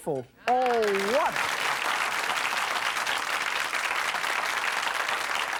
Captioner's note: audience applauds